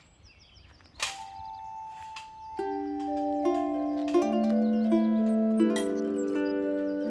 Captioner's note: birds chirping; gentle instrumental music; gate rattling